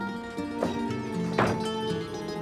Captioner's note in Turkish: Kapı kapanma sesi